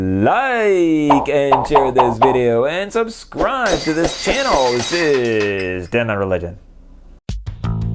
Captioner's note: popping noises; glass breaking